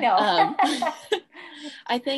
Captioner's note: laughs